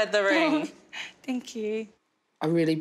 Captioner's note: baby laughs